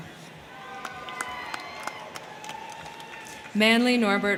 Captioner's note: crowd cheering; crowd clapping